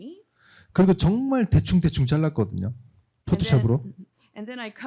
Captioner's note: speaking korean